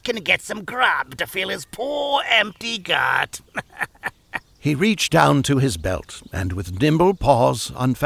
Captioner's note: chuckle